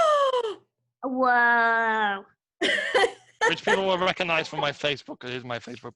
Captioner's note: laughs